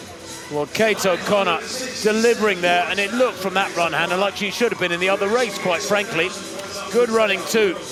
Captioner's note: applause